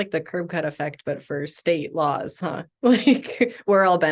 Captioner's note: chuckles